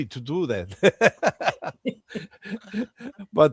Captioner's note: laughter